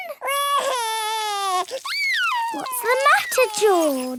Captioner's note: crying